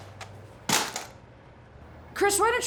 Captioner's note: smashing Betamax